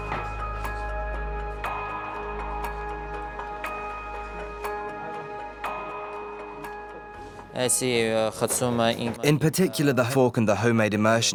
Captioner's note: voiceover